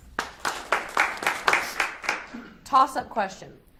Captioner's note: audience applauds